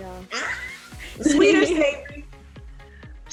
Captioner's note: laughing